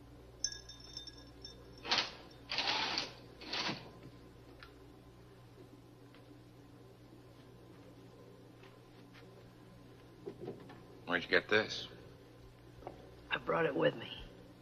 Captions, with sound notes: (curtains rattling) - Where'd you get this? - I brought it with me.